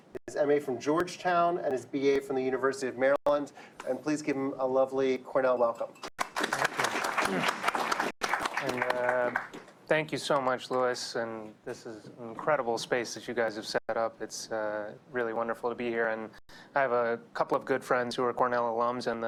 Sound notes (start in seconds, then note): 6.1 applause